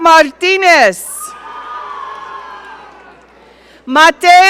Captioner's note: audience cheering